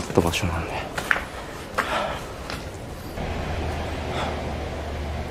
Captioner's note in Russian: звуки шагов